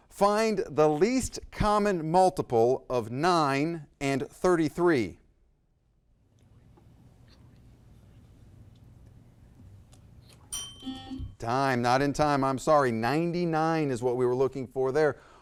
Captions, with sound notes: Find the least common multiple of nine and 33. (bell ringing) (buzzer blaring) Time, not in time, I'm sorry, 99 is what we were looking for there.